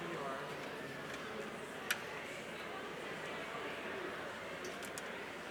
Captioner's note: crowd chattering